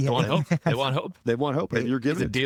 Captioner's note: laughing